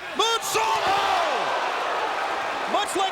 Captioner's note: crowd exclaiming